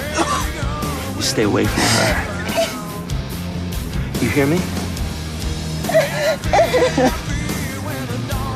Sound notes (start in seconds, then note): 3.6 crying